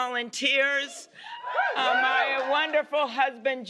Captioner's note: cheers and applause